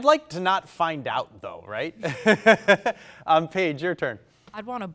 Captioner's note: laughs